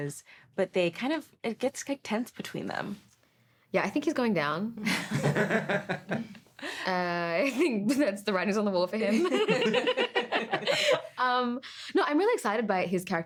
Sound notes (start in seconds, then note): 5.0 all laughing; 9.3 all laughing